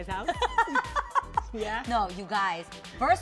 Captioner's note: laughing